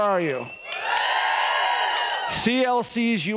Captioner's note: audience cheering